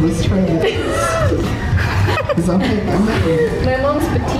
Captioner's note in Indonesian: Ketawa